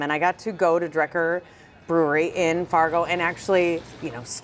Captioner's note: none